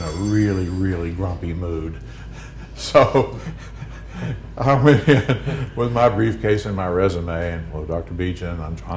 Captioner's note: laughter